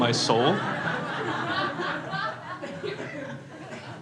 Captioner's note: crowd laughs